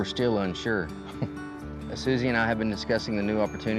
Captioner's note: chuckles